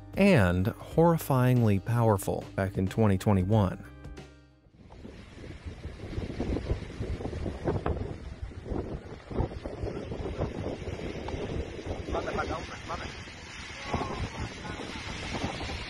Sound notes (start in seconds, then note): 6.0 wind rustling; 11.7 speaking in foreign language